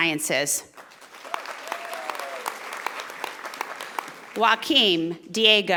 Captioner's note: audience applauding